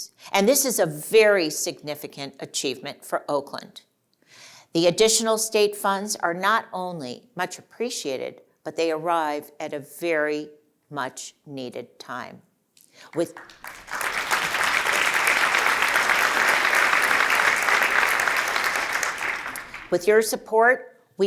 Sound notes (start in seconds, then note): 13.0 applause